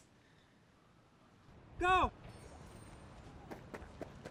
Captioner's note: voiceover